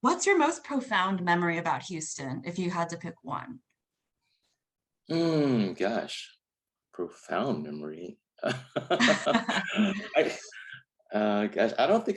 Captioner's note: both laugh